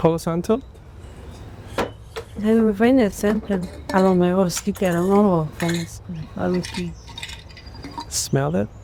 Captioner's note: speaking spanish